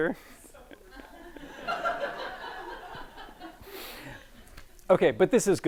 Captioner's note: audience laughing